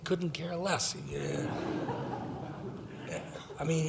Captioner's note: laughing